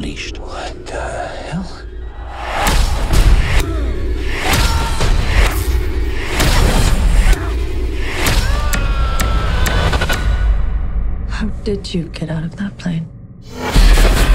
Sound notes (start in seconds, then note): 8.2 screaming